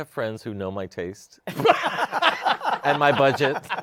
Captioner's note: laughter